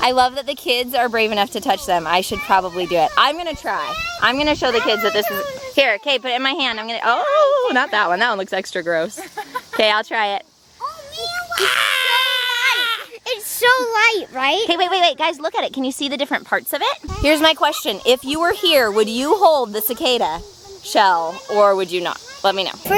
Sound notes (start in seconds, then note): 11.3 screams